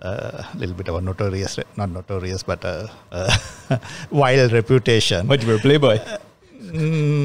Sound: laughs

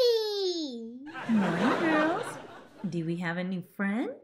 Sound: audience laughs

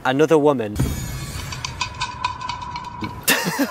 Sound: shade rattle

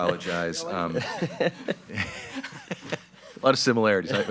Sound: laughing happily

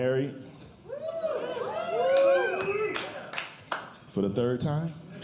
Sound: audience Cheering

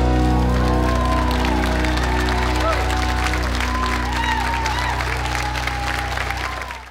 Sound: cheers and applause

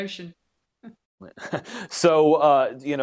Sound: chuckling

